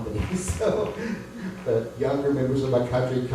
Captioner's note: laughs